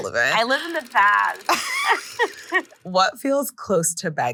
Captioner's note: both laughing